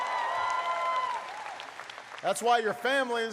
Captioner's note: applause